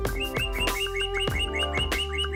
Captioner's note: J$J Birds chirping